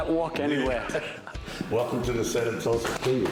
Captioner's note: laughter